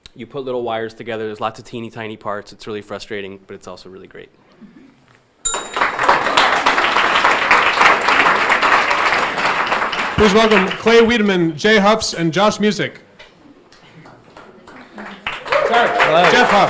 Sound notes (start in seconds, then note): 5.4 bell dinging; 5.5 audience applauding; 14.0 audience applauding